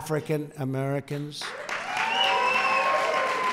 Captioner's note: applause